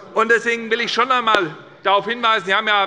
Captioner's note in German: none